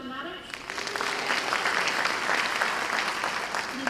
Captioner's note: applause